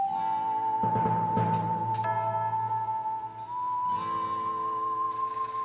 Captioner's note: garage door clanks